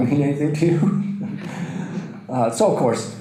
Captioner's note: audience laughter